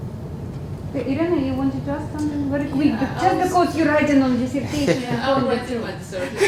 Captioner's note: laugh